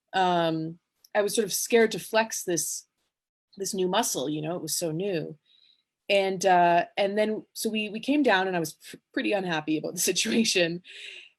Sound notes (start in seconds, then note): none